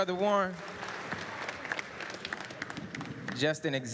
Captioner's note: applause